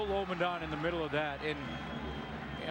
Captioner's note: whistle